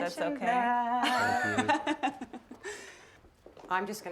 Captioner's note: Isabel laughing